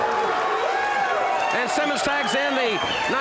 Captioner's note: audience cheers